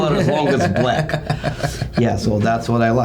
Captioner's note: laughing